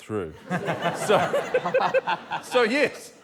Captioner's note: laughter